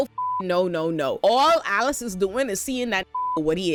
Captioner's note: beep